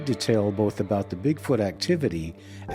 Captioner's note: none